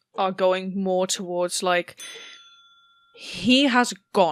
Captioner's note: bell dings